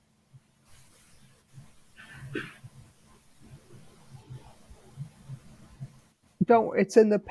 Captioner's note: pauses 6 seconds